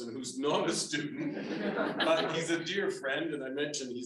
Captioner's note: everyone laughing